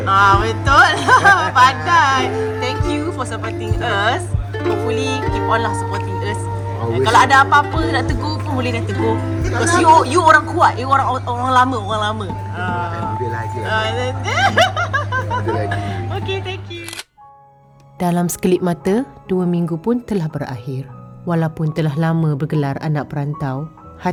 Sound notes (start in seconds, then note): 0.6 laugh; 14.2 laugh; 16.8 camera snap